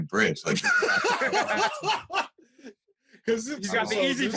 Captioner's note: laughter